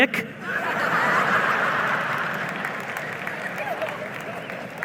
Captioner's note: audience laughing